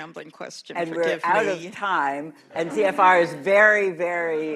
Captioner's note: laughter